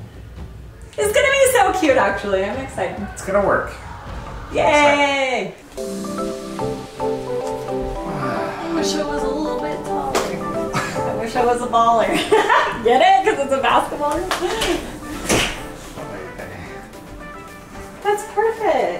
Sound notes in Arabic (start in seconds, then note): 6.2 موسيقى بوب مبهجة; 14.2 ضحك